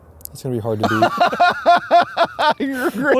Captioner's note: laughing